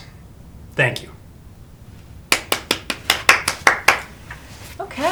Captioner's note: applause